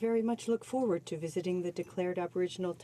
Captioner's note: speaking French